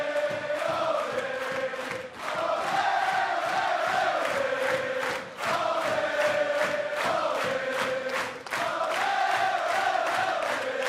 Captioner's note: cheers and applause; fans chanting